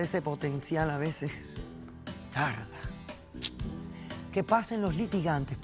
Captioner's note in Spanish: Chasquido bucal